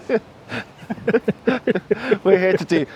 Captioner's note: laughing